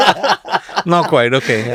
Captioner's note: laughs